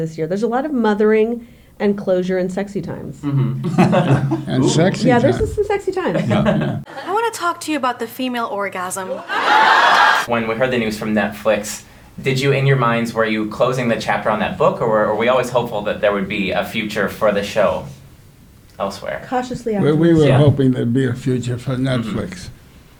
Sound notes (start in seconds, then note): 3.2 laughing; 9.1 crowd laughing